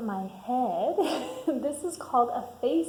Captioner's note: laughs